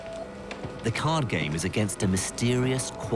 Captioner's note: voiceover